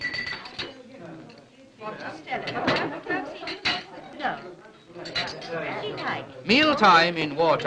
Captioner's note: chatter